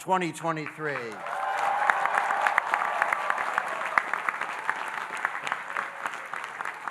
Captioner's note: audience cheering and applauding